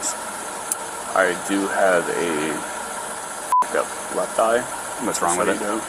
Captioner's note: beep